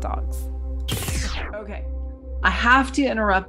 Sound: zapping noise

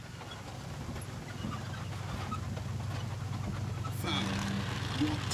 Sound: rumbling engine noise

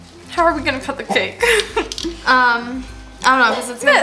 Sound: snickers

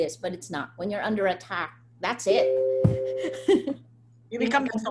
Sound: laughs

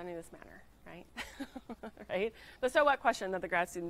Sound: laughs

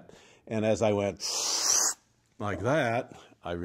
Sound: deeply inhales

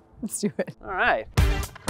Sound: laughing

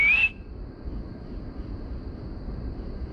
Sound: whistle

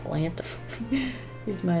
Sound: chuckles

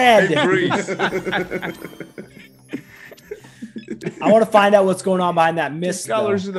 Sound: laugh

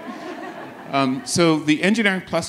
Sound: audience laughs

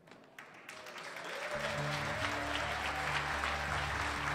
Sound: cheers and applause

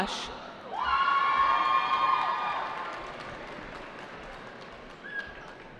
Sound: cheering

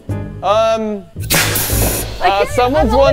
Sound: cannon hissing

